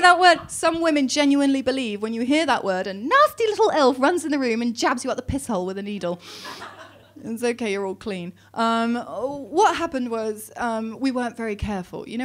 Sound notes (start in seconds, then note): 6.4 audience laughing